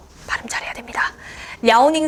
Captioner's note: whisper